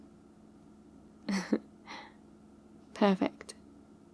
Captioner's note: laughs